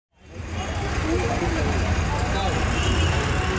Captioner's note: city sounds